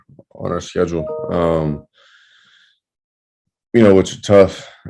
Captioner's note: computer notification sound